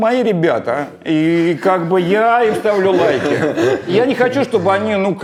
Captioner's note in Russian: Дудь и Антон смеются